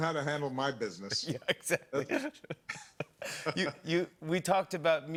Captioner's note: laughing